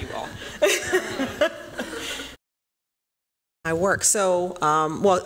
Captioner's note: laughs